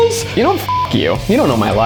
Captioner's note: beep